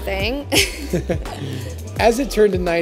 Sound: laugh

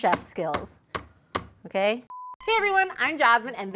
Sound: tapping

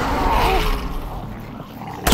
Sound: zombie moan

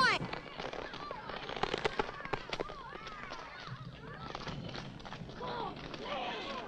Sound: children yelling in the distance

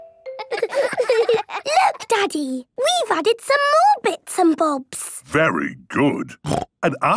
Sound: laughter

